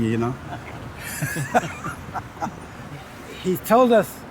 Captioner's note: both laugh